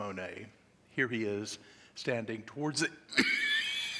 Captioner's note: coughing